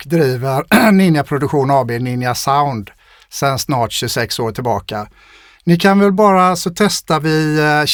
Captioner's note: clears throat